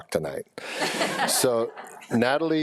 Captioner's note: people laughing